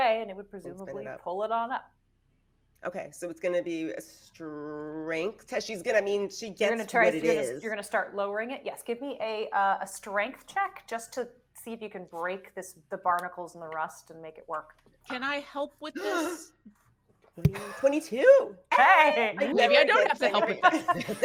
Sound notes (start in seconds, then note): 17.5 person gasping